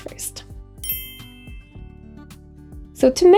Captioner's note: bells chiming